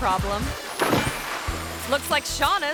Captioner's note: water splashes